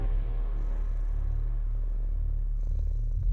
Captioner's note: purring